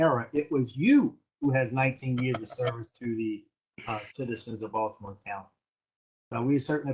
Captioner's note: laughter